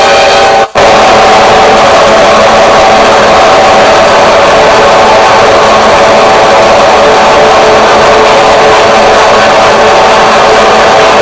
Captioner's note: yelling earrape